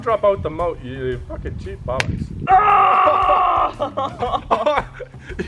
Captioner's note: EGGSPLAT followed by cries of misfortune